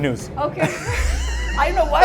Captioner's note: both laugh